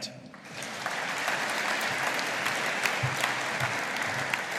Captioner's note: audience applauding